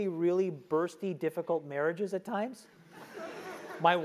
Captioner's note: laugh